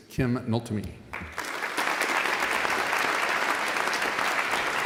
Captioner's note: audience applauding